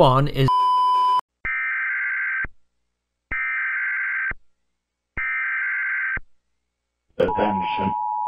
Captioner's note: emergency Alert Siren